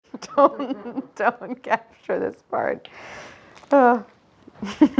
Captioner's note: laughs; laughs